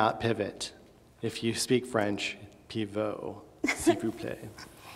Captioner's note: speaks in foreign language